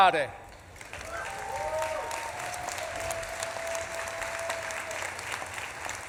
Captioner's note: audience claps and cheers